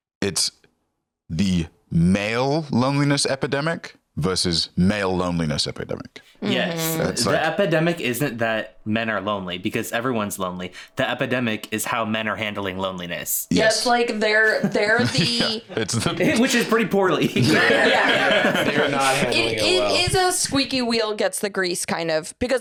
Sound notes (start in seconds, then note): 17.0 all laughing